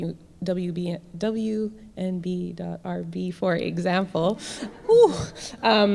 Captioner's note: audience laughs